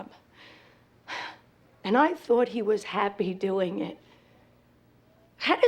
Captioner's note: sighs